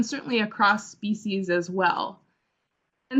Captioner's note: Vietnamese